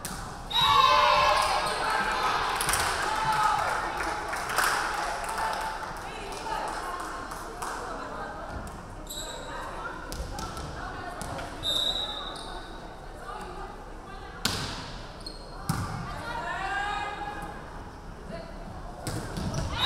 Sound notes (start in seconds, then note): 0.5 referee whistling; 0.9 crowd clapping; 11.6 referee whistling